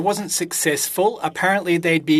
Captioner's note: speaking French